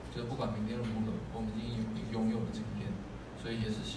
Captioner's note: translates quote into Chinese